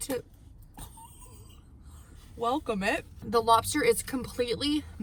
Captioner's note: laughs